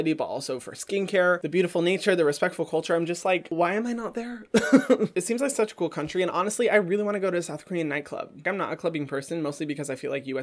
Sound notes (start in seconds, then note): 4.5 laughs